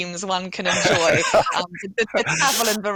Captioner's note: chuckling